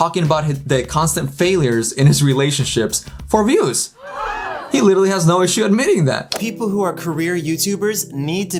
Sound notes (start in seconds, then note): 4.0 audience gasp sound